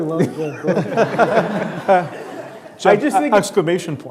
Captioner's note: laughing